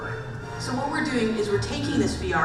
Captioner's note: voiceover